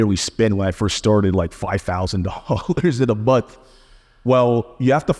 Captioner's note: laughing